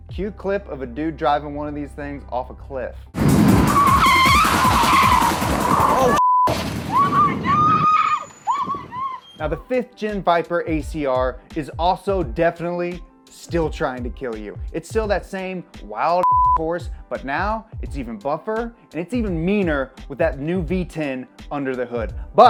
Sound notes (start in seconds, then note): 3.3 car engine roaring; 6.8 woman screaming; 16.2 beep